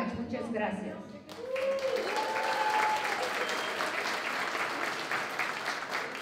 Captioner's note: non-english speech; applause